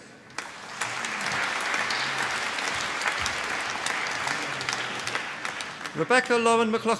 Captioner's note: applause